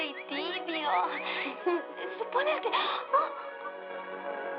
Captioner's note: gasps